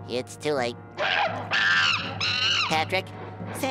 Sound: shrieking

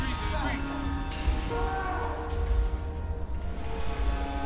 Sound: yells in pain; melancholic music continues

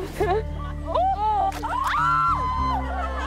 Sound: women screaming; egg cracking and squishing

